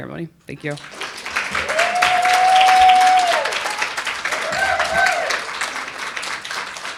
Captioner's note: audience cheering and applauding